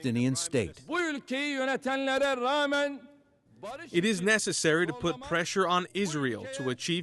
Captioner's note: through translator